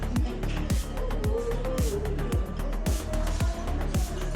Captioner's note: laughs